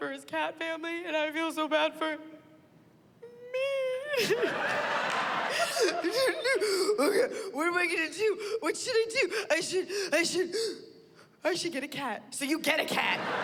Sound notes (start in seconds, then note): 3.5 cries